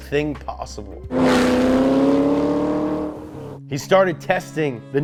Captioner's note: engine whirs